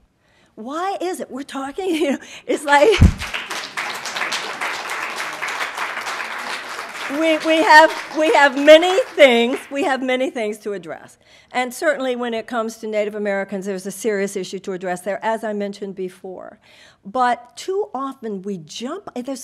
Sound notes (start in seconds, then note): 2.9 audience applauding